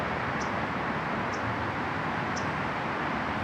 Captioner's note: bird chirps